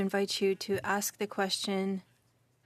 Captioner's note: speaking French